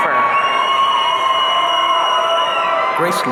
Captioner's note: audience cheering